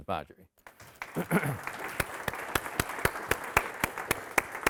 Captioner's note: audience applauding